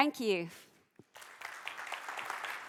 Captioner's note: applause